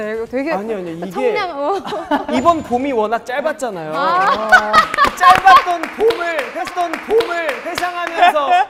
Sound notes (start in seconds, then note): 4.0 ha ha ha